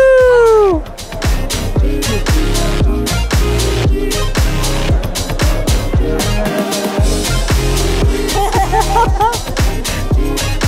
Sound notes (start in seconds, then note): 5.6 humming; 8.0 laughing